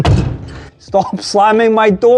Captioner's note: slams door